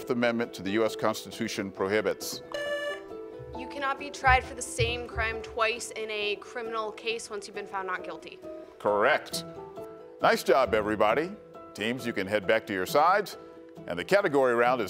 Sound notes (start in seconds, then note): 2.5 buzzer beeps